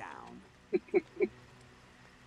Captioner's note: chuckle